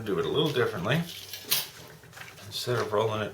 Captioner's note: metal clinking